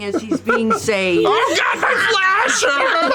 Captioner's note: gurgles; laughter